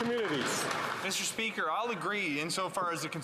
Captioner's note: some Applause